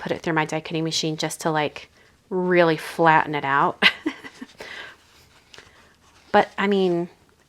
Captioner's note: laughs